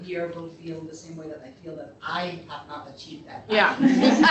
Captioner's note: laughter